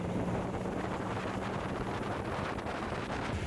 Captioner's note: wind